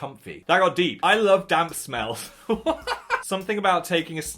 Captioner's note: laughs